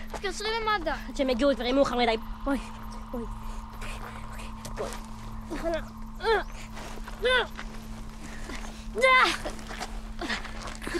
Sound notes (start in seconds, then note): 4.8 grunting